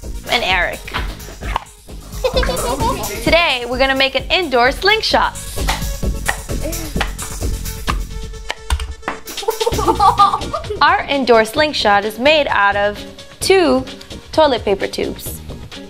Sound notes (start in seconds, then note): 1.5 pop; 2.1 giggles; 6.0 popping; 9.4 giggling